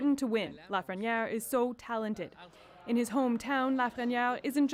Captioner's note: speaking French